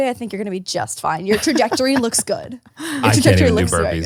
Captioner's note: laughs